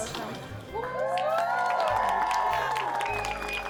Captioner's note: cheering